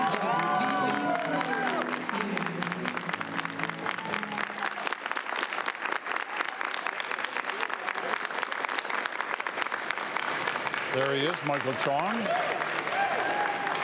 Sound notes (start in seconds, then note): 3.3 applause